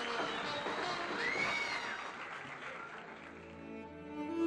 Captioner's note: crowd clapping